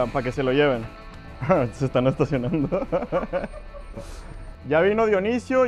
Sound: laughing in mexican

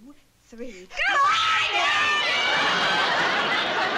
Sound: shouting

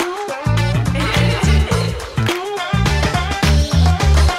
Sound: laughing

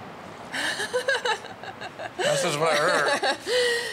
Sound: nervous laughing

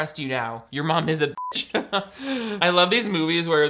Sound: beep

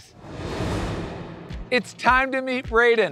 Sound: graphics whooshing

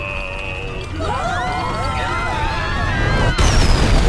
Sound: screaming

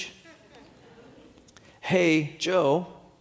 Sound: audience laughing

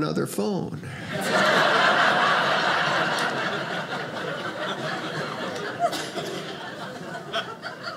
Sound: audience laughing

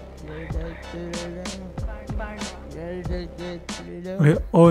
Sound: voices

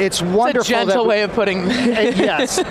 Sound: chuckles

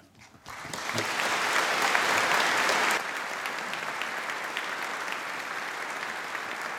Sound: audience applauding

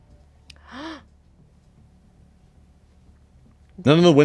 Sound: players gasp

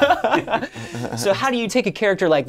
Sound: laughing

